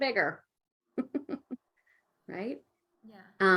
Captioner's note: laughing